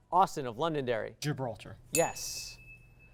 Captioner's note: ding